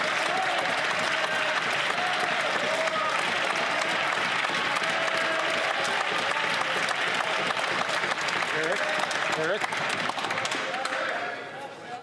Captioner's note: some Applause